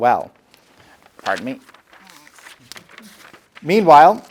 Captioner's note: paper rustling